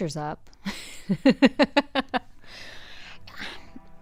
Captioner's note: laughing